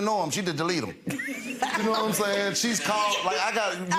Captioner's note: Judge Lynn laughs